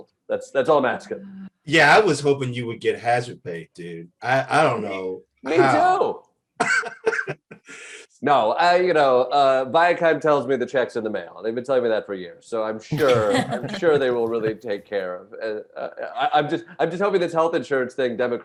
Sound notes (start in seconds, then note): 6.6 Eric laughs